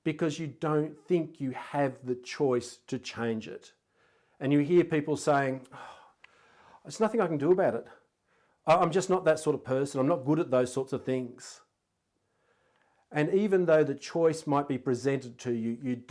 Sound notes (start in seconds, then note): 6.4 sighing